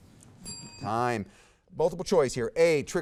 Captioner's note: bell dings